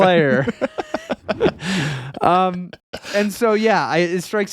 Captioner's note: laughing